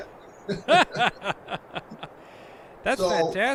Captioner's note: laughs